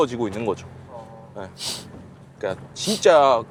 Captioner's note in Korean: 콧방귀